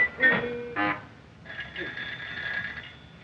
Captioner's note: phone ringing